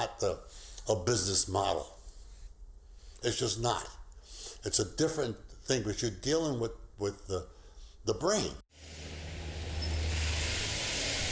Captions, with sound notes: Education is not a a business model. It's just not. It's a different thing. What you're dealing with, with.. The brain. [bus engine]